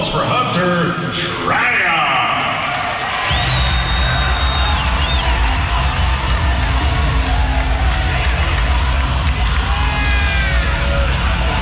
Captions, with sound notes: applause for Hunter Shryock. (cheering and applause)